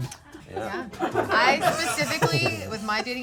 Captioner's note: people laughing